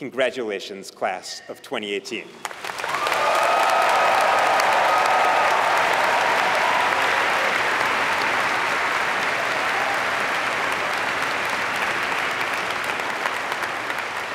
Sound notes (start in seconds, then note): 2.4 applause